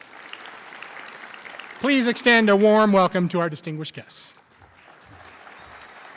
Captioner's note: applause